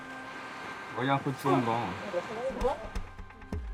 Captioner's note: all speaking French